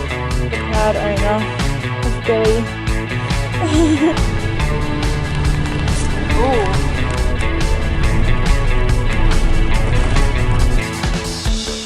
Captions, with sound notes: the proud owner of Billie *giggles* ooo